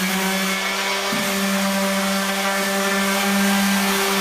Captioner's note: orbital sander sanding; orbital sander spins down